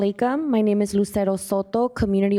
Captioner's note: speaking in arabic